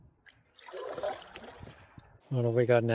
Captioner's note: water sounds